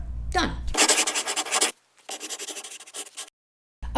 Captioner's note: scribbling